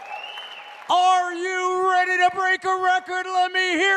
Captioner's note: applause